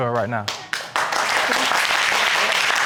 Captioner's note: audience applauding